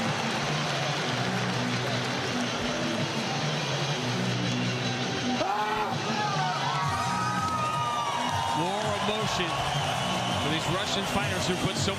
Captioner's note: cheers and applause